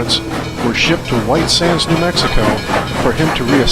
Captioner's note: train horn blows